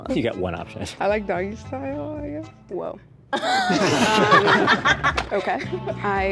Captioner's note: all laugh